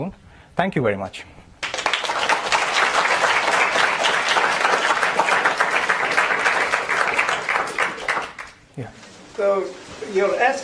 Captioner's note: applause